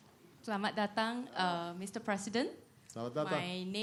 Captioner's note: non-english speech